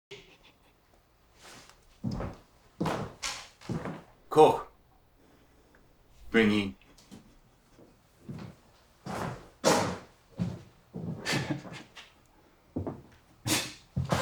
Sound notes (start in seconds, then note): 6.3 soldier speaking German; 11.2 Koch chuckling